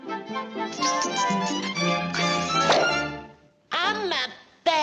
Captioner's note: bright music; lips smacking